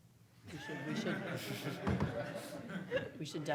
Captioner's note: audience laughing